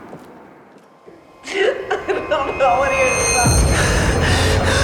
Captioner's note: woman crying